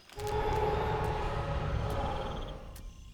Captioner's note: distant roar